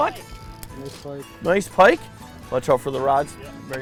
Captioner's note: voiceover